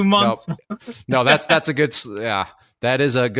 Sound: laughs

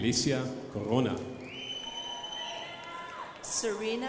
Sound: crowd applauding

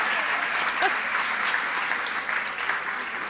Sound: applause

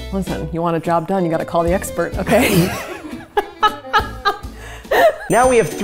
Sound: laughing

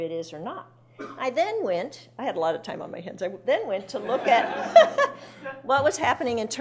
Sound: laughing

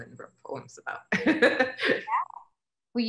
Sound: laughs

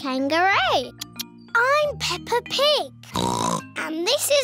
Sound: oinks

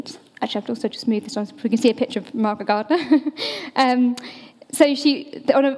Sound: chuckles

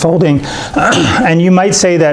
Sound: clearing throat

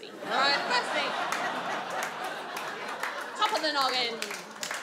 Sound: audience laughs and applauds

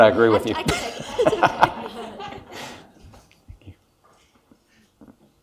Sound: laughs mildly

